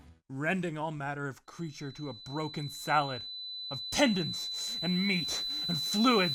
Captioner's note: static, tinnitus sound effect